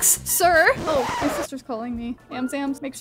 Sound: screeching tape

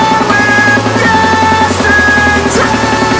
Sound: flutter, flutter

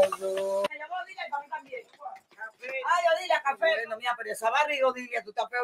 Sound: speaks in foreign language

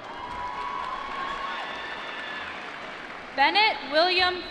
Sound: applause

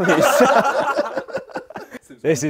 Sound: people laughing

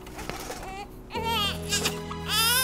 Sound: baby crying; mellow music

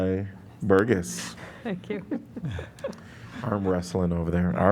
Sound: laughter

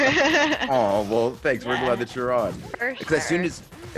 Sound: laugh

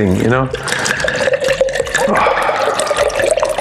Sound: wine pours

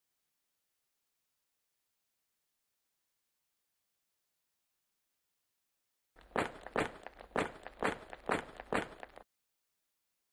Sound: no speech

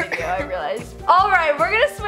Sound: coughs

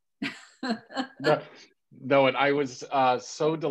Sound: laughing

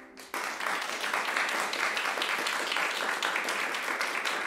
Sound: audience applauding

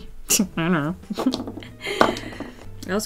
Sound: laughs

